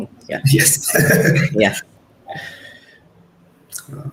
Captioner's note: laughs